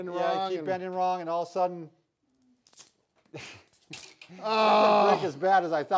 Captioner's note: stick snaps